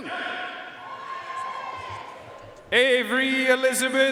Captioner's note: audience cheering and applauding